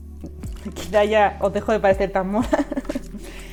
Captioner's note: laughs